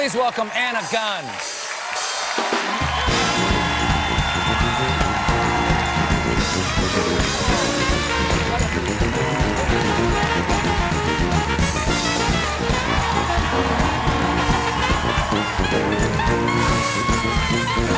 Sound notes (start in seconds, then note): 4.3 cheers and applause